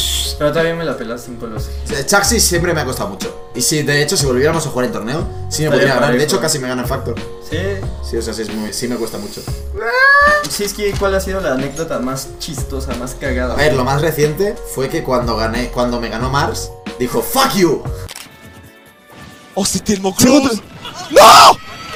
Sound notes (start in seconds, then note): 9.8 cries